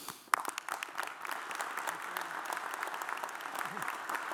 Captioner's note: audience applauds